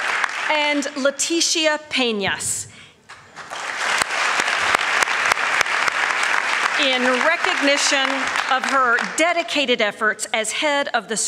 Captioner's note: applause